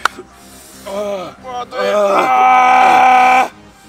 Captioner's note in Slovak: zvuky vzdychania